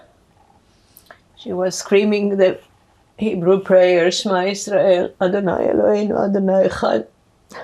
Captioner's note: hebrew